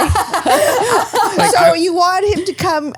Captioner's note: laughing